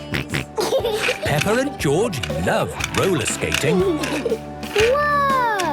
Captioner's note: snorting and giggling; laughter